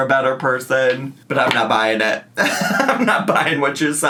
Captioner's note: laughs